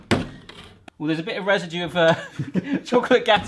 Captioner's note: laughs